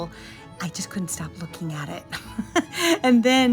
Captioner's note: laughing